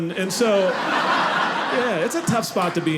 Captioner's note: audience laughing